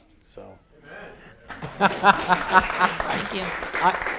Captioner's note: applause